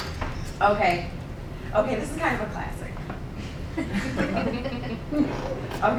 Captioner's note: laughing